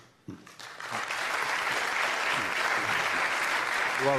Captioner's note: applause